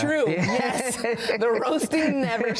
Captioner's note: both laughing